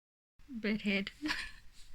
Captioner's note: laughs